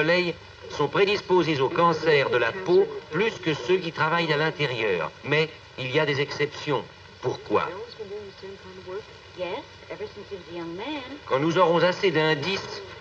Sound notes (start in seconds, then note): 8.0 parlant dans une langue étrangère